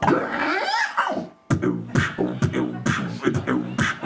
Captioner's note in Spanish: hace beatbox